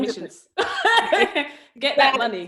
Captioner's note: laughs